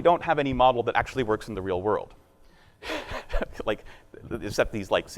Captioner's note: laughing